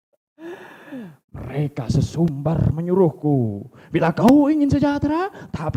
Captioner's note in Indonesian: terkesiap